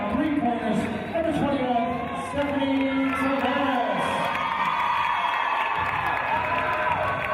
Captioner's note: cheers from team